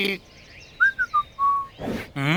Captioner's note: whistle